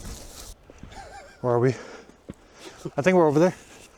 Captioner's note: laughs